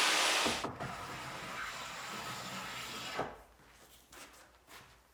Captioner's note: hand tool swooshing